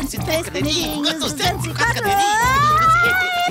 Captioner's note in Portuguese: grito